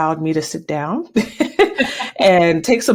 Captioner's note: laughter